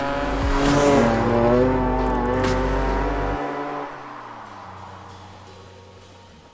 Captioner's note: engine roaring; cheerful music continues